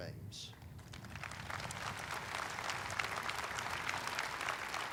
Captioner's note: audience applauding